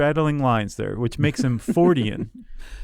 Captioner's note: laughs